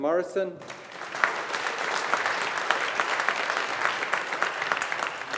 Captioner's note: audience applauding